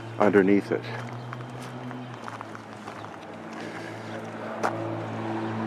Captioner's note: traffic droning